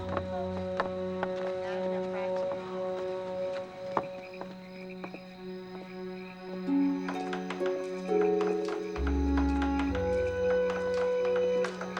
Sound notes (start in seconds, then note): 0.2 crickets chirping; 5.3 frogs croaking; 8.4 dramatic music